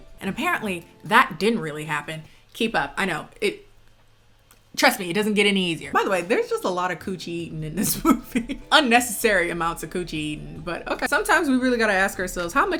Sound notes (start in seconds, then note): 8.4 laughs